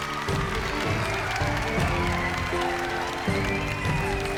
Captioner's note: applause; cheering; upbeat music